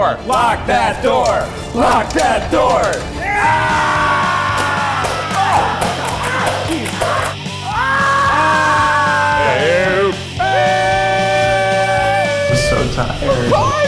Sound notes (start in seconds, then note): 3.3 fast rock music; 3.3 screaming